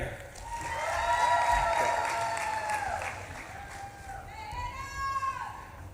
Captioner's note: audience claps and cheers